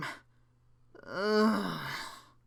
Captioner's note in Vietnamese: than thở